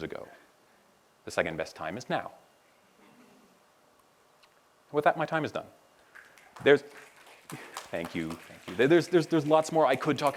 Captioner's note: applause